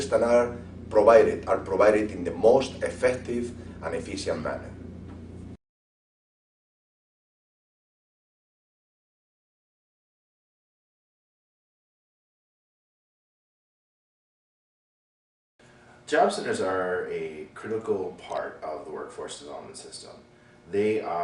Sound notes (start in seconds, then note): 5.5 silence